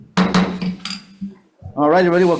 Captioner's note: gavel bangs